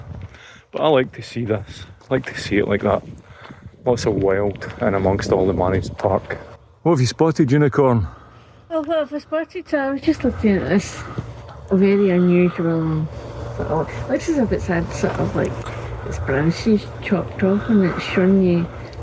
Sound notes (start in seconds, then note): none